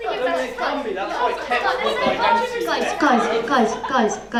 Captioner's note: arguing